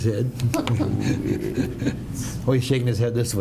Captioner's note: laughter